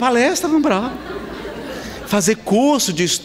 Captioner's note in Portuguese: Risadas